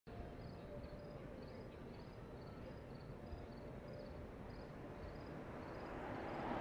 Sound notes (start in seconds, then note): 0.2 crickets chirping